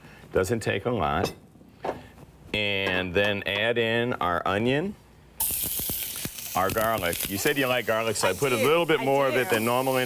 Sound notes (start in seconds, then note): 5.4 onion sizzles